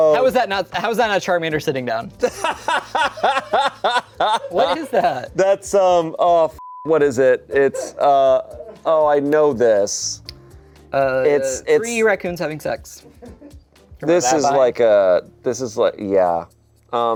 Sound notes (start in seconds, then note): 2.2 laughs; 6.6 beep